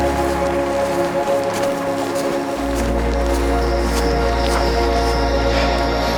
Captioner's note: shoes clacks; gentle music continues